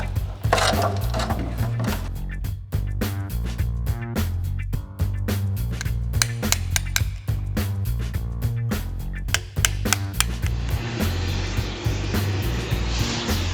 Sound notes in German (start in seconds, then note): 0.0 fröhliche Instrumentalmusik; 6.2 Hammer klappert; 10.7 Fackel dröhnt